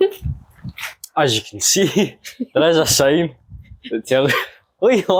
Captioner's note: laughter; laughter